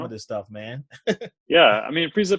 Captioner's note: laughs